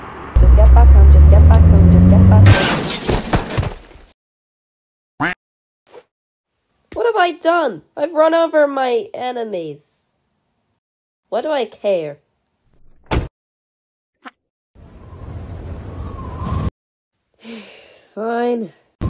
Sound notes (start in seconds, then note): 2.3 crash!; 5.2 quack; 17.4 sigh